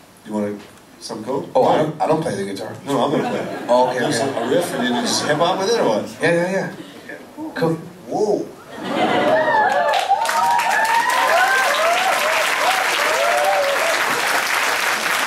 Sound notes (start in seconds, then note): 8.7 laughing; 8.9 cheering; 12.4 applause